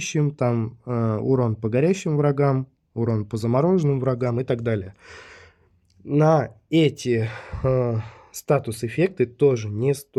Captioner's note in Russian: вздыхает